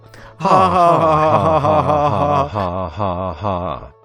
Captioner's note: awkward laughter